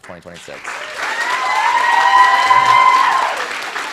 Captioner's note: cheering, applause